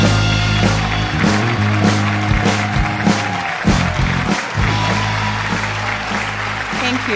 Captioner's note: applause